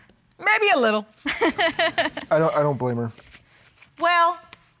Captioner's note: laughing